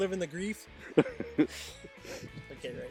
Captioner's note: laughing